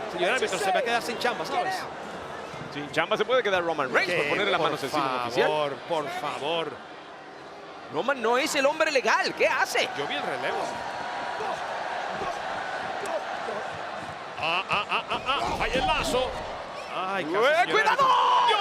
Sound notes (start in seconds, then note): 12.3 applause